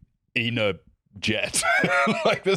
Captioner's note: laughs